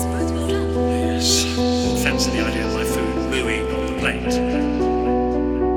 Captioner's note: voice echo